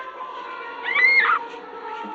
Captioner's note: screaming